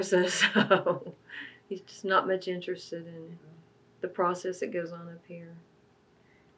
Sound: laughs

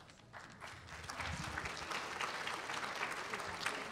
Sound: applause

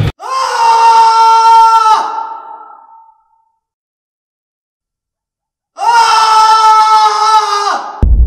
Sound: scream

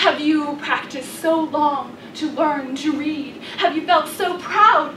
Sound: none

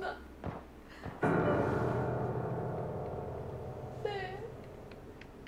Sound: the sound of footsteps is getting a close!

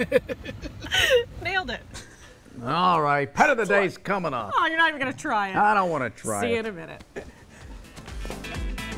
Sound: laughter

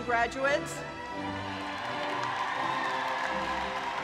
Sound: cheering

